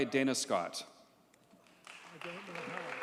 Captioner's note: audience cheers and applauds